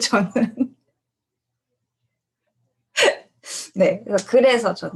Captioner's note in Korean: 웃음